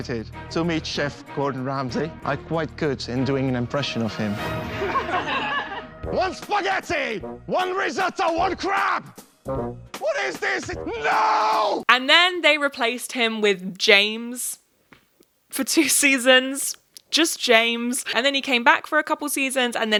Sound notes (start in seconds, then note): 4.5 audience laughs